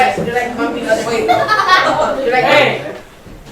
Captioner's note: laughs